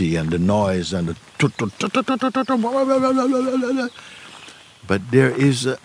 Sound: imitates traffic and loud voices

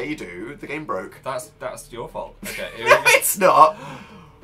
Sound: giggles

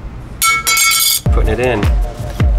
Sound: upbeat music; metal clattering

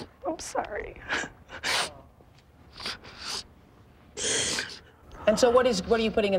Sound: sniffles

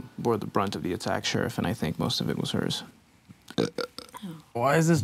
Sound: burps

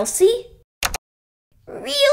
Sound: click!

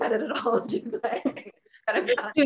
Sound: laughter

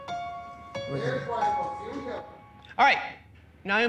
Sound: voiceover

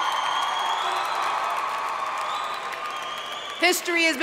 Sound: audience cheering and applauding

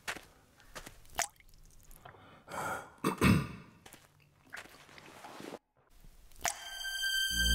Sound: drip/footsteps; suspenseful music

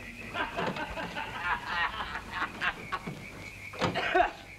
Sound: drunken laughter

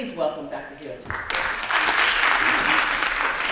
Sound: applause

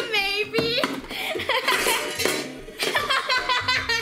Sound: laughs

